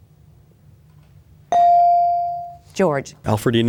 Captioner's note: bell dings